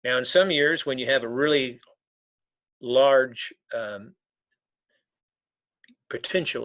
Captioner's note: none